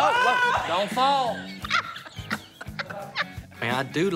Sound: laughs

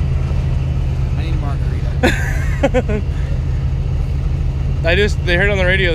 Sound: laughs

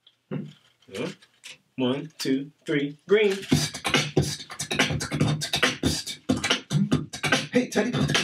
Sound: Mr. Max beatboxing quickly

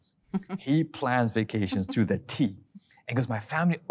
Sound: laughing

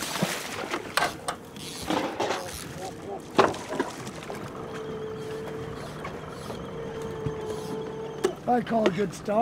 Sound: fish splashing; reel cranking

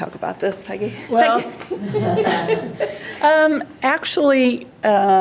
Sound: both laughing

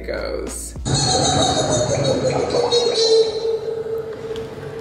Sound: high pitched laughing

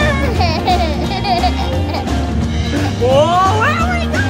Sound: laughing

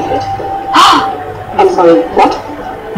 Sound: gasps

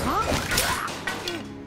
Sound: grunting

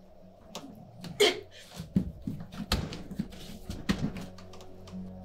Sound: grunts

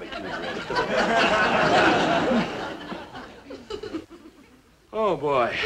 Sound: audience laughing

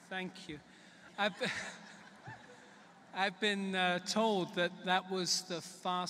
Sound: laughter

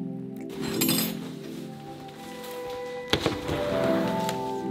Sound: hook clanking; door scraping; soft music

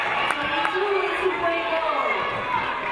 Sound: audience cheering

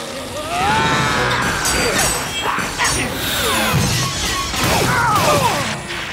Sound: yells

